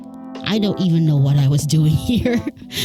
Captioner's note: laughs